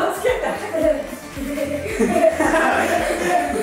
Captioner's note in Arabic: يضحك